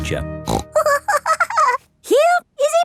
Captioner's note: snorts and giggles